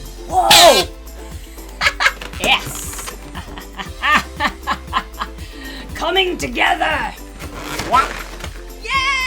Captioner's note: laughs